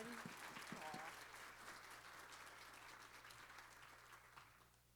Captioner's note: applause